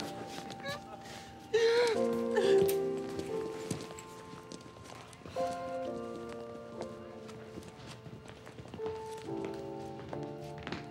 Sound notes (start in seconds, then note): 1.5 crying